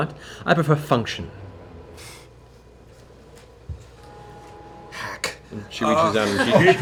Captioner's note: laughs; scoffs